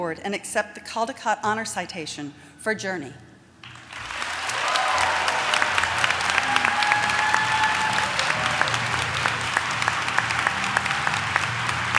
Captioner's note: applause